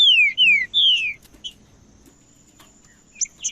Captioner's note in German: trinca ferro cantando